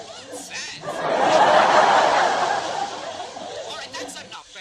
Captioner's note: even more laughter